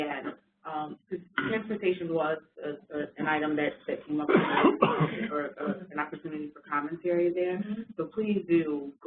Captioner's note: coughing